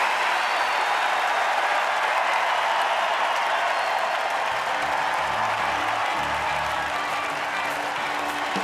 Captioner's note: applause